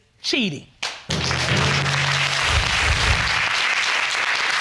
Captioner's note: audience clapping